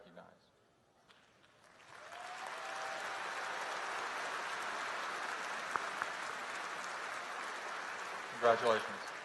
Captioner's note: applause